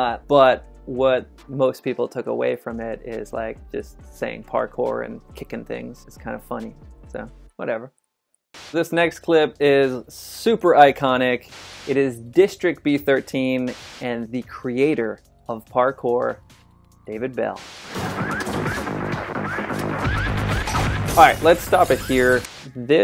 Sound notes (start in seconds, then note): 8.5 static noise; 17.6 intense music; 17.6 static noise; 20.8 glass shattering